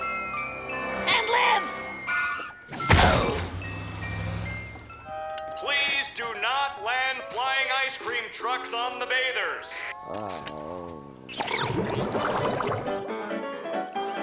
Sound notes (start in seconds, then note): 3.5 music chiming; 10.0 groaning